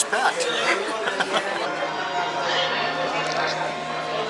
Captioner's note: laughter